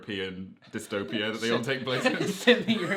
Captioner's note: laughing